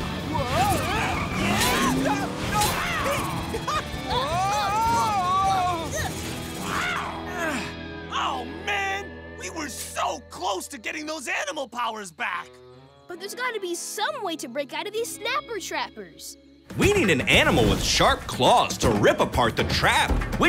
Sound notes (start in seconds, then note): 6.6 grunting